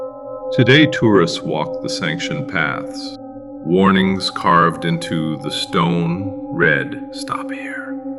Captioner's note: whispering